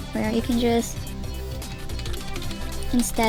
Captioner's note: keyboard noises